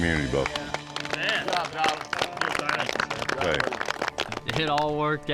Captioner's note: all clapping